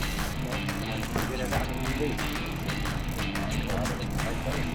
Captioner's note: reel clicking